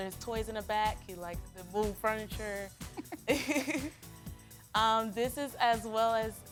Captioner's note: laughs